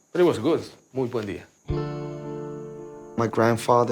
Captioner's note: speaking Spanish